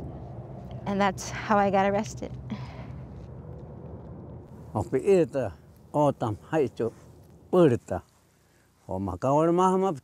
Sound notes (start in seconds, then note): 2.1 wind swooshing; 5.2 speaking O■odham language